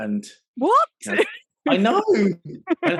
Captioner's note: laughing